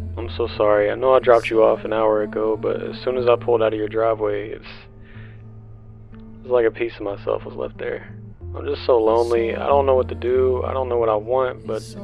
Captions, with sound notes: I'm so sorry, I know that I just dropped you off an hour ago but as soon as I pulled out of your driveway it's... (deep breath) It's like apiece of myself was left there.. I'm just so lonely I don't know what to do, I don't know what I want but...